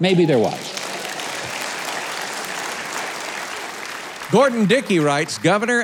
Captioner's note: crowd applauding